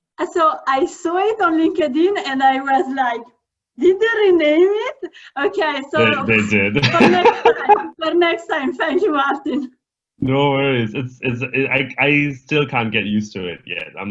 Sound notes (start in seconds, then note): 6.0 chuckles